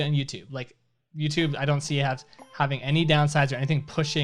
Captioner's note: melodic timer